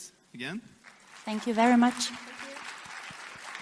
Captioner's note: audience claps